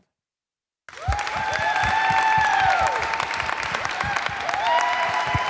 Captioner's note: applause